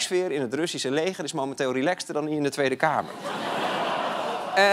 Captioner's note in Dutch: gelach